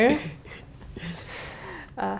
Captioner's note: laugh